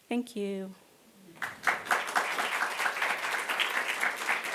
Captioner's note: applause